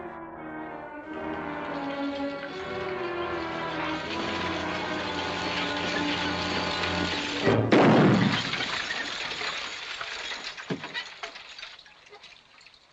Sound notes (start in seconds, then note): 0.0 worrying music; 7.4 gunshot